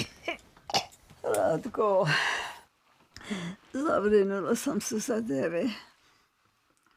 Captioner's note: Zora coughing; Zora speaking Serbian